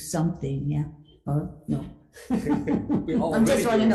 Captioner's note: laughs